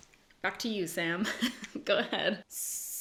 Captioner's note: giggles